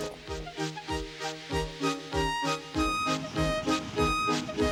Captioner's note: hissing, rattling